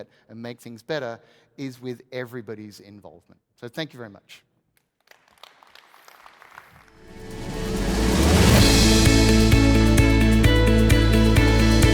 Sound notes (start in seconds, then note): 4.9 audience claps; 7.0 upbeat music